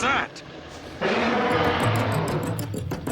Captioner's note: roaring